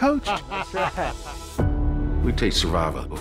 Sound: laughing

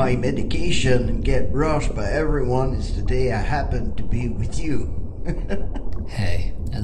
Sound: chuckles

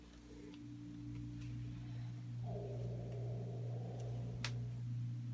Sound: faint growling

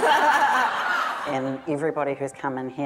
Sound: audience laughter

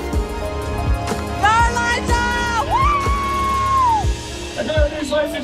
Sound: cheering

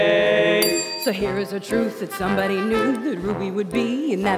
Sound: call bell dings

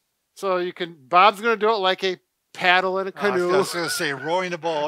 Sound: chuckles

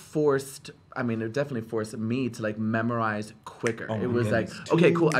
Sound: snaps

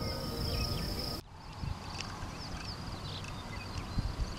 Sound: birds chirping

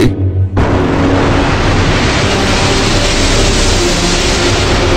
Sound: analog synthesizer whooshing sounds

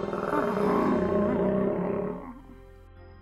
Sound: growling

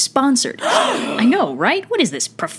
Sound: audible gasp

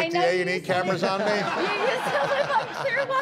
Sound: laughter

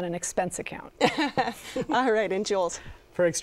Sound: laughs

